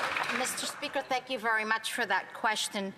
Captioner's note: some Applause